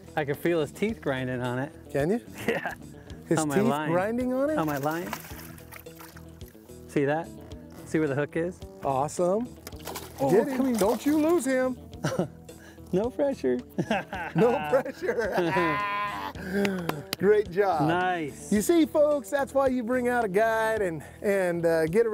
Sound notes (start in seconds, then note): 13.7 both laugh; 13.8 laughs